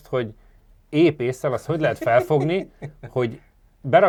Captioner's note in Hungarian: nevetés